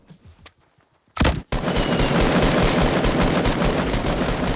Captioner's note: gut shots